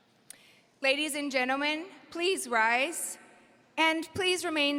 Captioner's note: none